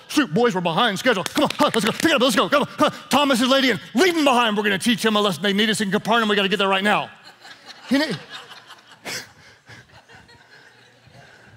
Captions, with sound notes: shoot boys we're behind schedule. Come on, huh, let's go, pick it up, let's go. Thomas is late and leave him behind, we're gonna teach him a lesson. They need us in Capernaum and we got to get there right now. (laughing)